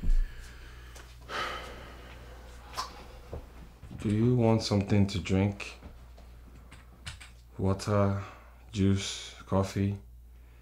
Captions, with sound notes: (Sigh) Do you want something to drink? Water, juice, coffee...